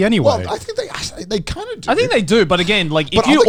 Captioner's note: sighs